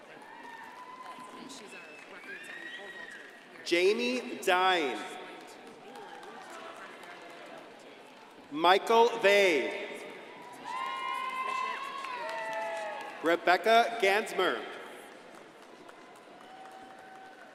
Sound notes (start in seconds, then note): 10.5 crowd cheering and applauding